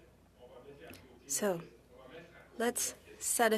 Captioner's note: speaking French